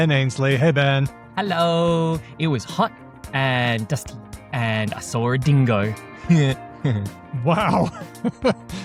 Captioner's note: laughs; chuckles